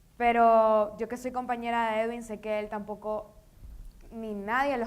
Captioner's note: speaking in foreign language